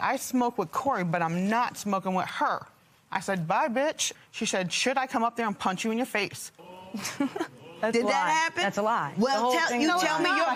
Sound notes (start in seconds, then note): 6.6 giggles